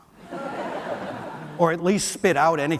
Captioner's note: audience laughs